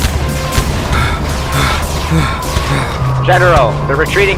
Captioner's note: heavy breathing